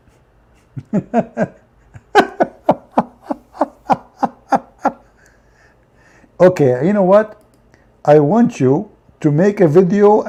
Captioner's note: Ketawa